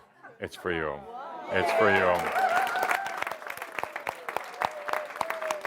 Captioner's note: audience approval and applause as he gives it to a young boy